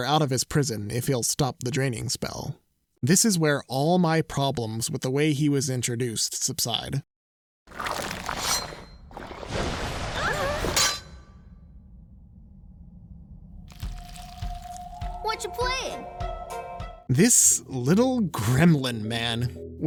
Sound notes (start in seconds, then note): 7.6 squelching; 9.8 all shouting; 10.7 clangs